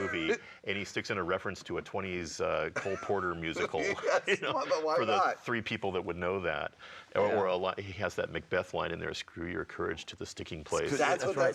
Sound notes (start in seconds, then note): 2.7 laughs